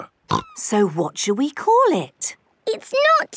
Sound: snorting

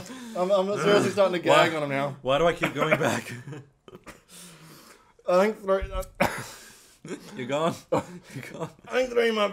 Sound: laughs; coughs

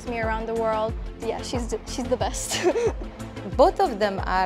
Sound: laughs

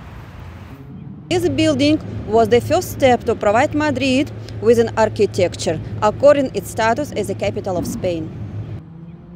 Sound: street Noise

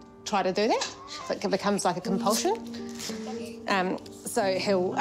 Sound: velcro rips

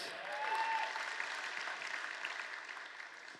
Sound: applause

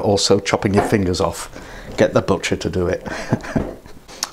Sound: laughs

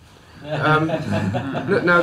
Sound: laughs

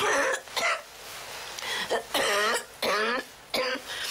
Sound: Gran coughing

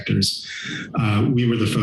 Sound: inhales

